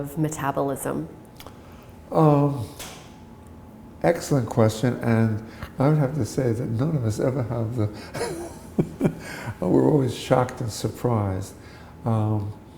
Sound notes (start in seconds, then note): 8.0 chuckle